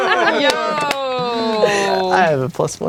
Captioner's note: players laughing; clapping